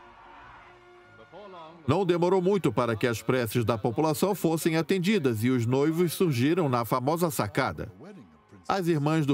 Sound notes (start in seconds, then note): 1.1 voiceover